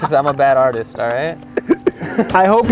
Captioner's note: laughing